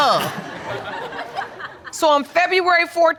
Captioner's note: audience laughs